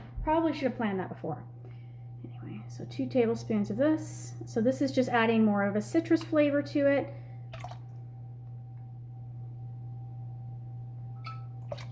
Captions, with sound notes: Probably should have planned that before. Anyway, so two tablespoons of this. So, this is just adding more of a citrus flavor to it. (Contreau splashing)